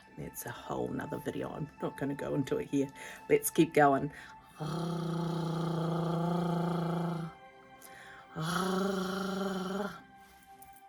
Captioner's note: gargling sounds